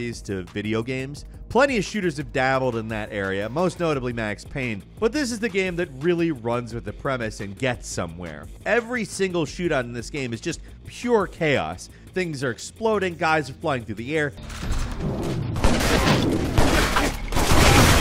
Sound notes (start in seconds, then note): 14.6 gun fighting